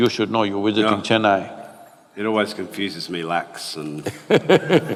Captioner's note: both laugh